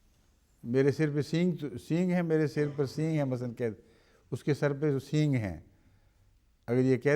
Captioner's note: in Urdu